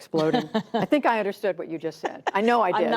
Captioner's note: laughter